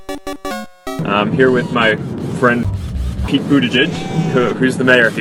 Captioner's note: robot noise